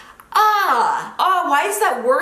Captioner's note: groaning